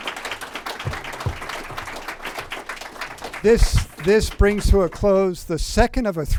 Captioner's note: applause